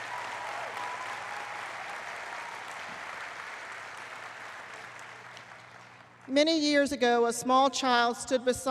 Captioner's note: applause